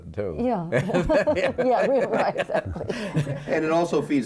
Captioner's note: laughs